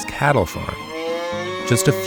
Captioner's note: cow mooing